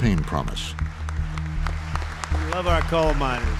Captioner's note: applause